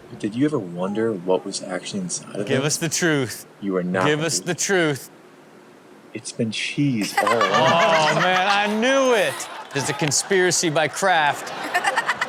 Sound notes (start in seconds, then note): 7.0 Chanel laughs